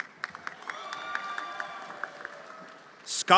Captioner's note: everyone applauding and cheering